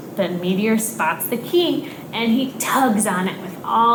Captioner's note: none